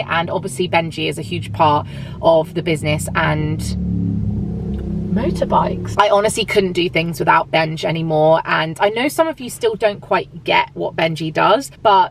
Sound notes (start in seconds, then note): 3.8 motorbike engines rumbling